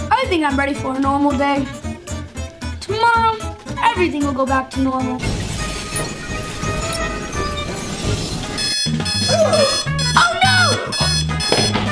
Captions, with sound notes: I think I'm ready for a normal day. Tomorrow everything will go back to normal. (Mechanical sounds) (Alarm clock) - Oh no!